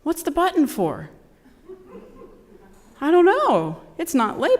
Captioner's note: laugh